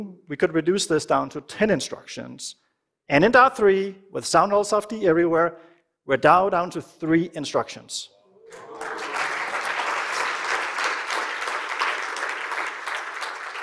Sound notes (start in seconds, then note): 8.3 cheering and applause